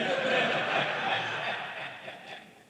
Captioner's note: laughter